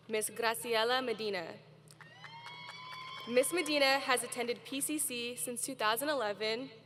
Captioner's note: cheering